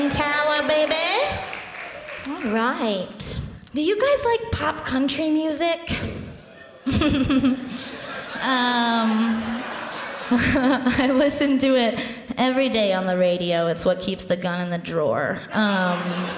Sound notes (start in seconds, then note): 6.3 crowd laughs